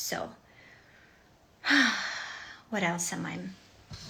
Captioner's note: woman exhales